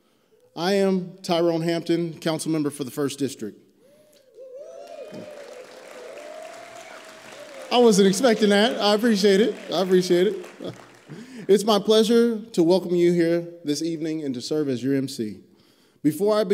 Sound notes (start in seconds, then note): 6.1 applause